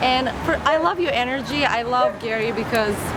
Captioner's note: none